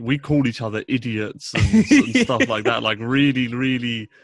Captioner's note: laughing